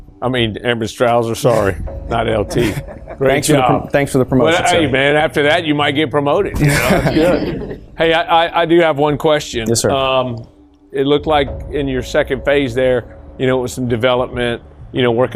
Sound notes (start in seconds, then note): 6.6 all laugh